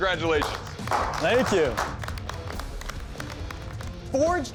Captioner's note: clapping